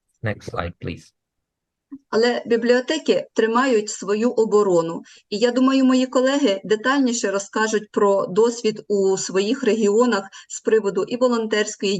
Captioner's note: foreign Language